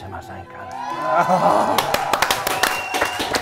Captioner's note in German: Freudige Laute, Jubel